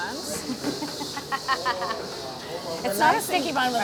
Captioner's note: chuckles